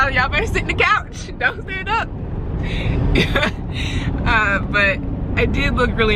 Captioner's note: laughs